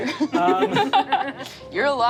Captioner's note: laughs